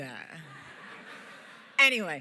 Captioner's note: laughter